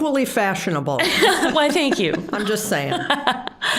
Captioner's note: laughing